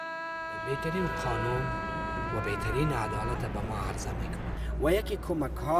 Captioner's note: speaks in foreign language